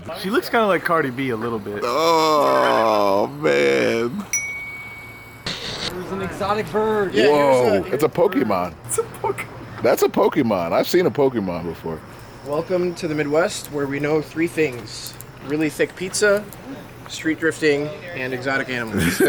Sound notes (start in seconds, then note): 4.3 ding; 9.3 laughs